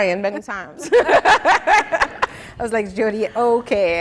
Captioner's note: laughing